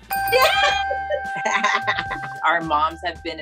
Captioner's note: bell dings; women cheer